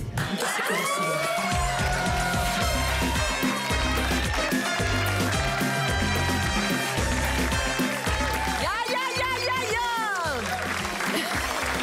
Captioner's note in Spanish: Gritos y exclamaciones